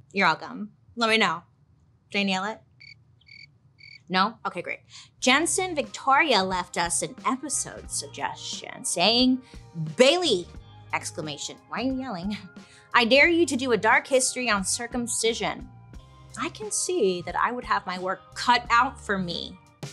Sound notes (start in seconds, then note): 3.2 crickets chirping